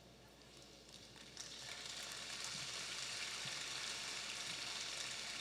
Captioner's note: audience applauding